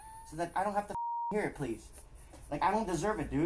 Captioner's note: beep